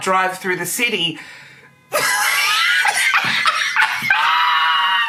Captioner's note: laughing hysterically